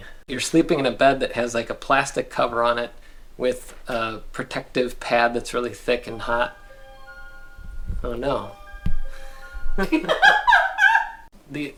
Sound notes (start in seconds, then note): 9.8 laughter